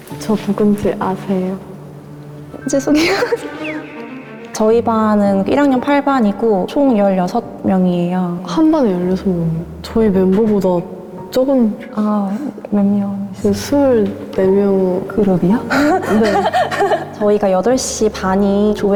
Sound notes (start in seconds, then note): 2.8 haha